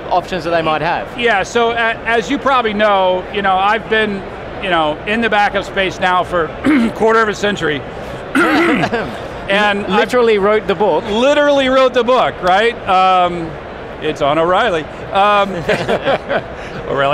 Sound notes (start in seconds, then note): 8.3 clearing throat; 15.4 laughing